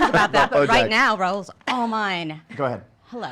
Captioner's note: laughing